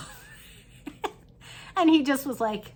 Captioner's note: chuckles